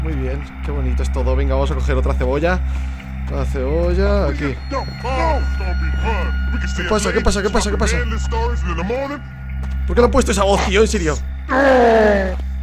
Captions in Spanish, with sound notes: Muy bien, que bonito es todo, venga vamos a recojer otra cebolla. Otra cebolla.. aquí *Sonido del juego* ¿Que pasa, que pasa? ¿que pasa? ¿Porque le han puesto esa voz, tío, en serio ?